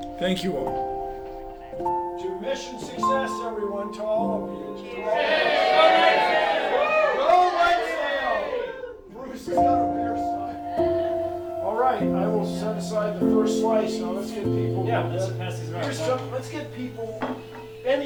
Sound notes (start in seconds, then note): 4.8 crowd cheering